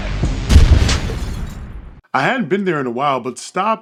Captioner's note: bomb explodes